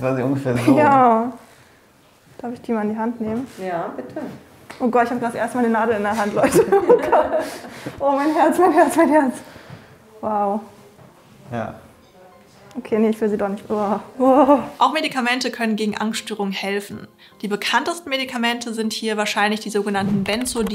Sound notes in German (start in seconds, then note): 8.6 Lachen